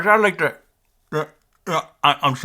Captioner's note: grunting